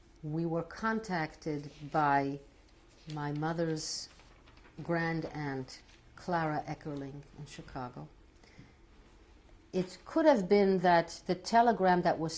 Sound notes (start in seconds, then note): 0.0 pauses for 3 seconds; 7.3 non-english